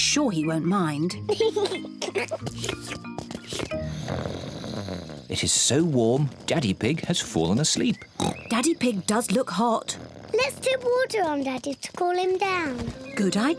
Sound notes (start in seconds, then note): 1.2 giggles; 3.4 snores; 6.1 oinks